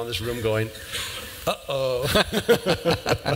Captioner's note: laughter